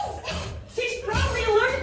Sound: dottie coughs

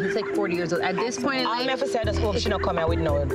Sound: speaks in foreign language

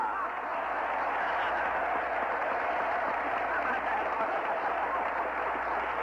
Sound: applause

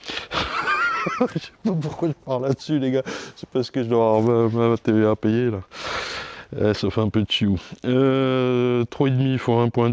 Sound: laugh

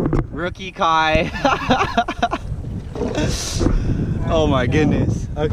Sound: laughs

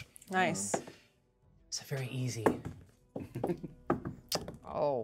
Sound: chuckles

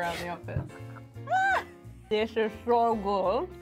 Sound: laughs

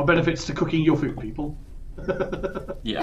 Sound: laughs

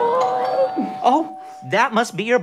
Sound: doorbell rings

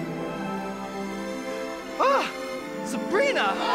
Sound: gasps

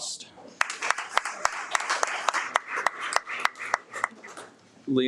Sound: audience applauds

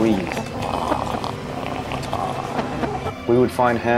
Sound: pained, heavy breathing

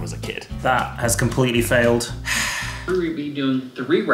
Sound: sighs

